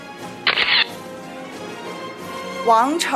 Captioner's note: camera shatters